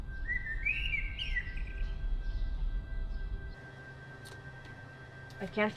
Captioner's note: birds chirping; tense music